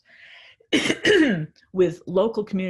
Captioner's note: coughs lightly